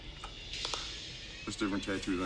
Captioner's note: case clacks